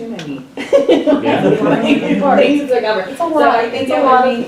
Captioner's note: laughter